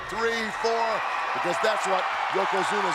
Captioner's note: audience cheers